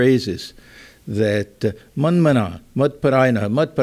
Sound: non-english speech

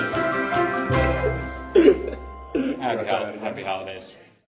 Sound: laughing

